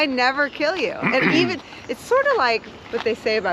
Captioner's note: laughing; clears throat